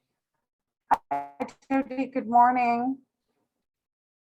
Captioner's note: speech distorting